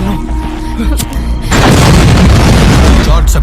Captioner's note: explosion